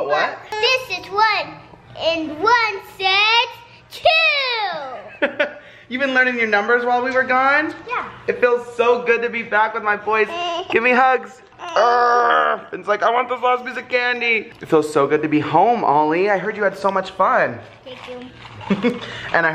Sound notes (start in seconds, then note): 5.1 laughs